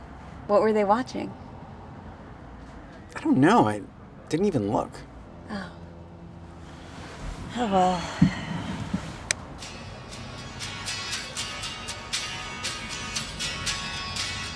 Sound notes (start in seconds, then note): 8.9 radio clicking; 9.5 cheerful music